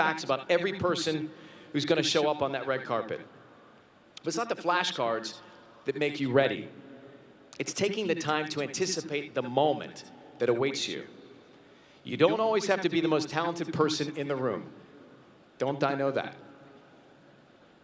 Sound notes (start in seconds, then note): none